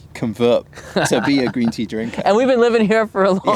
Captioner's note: laughs